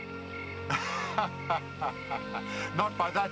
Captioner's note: laughing